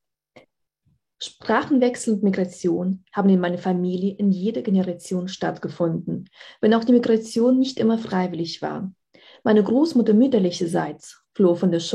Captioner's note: speaking german